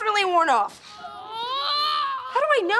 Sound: moaning

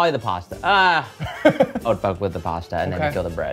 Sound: laughs

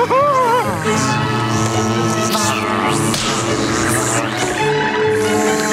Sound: buzzing

